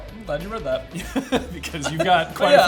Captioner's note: laughs